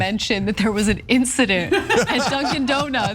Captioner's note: laugh